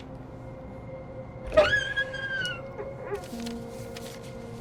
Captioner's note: door creaks